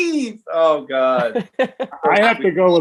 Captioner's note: laughing